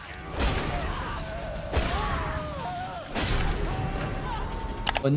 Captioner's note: both screaming